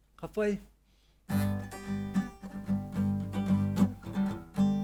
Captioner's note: speaking Maori